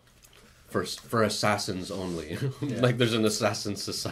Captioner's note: laughs